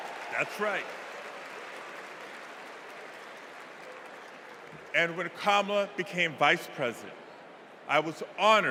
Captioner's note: cheers and applause